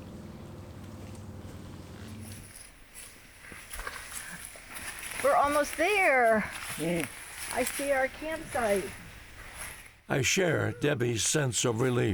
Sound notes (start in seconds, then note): 2.1 footsteps